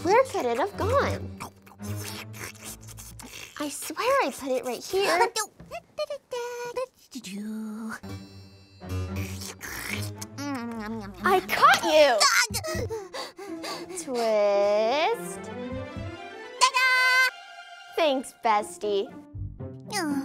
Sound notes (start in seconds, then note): 1.3 slurping noises; 9.2 slurping noises; 12.3 gasping